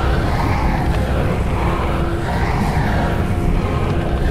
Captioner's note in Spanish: none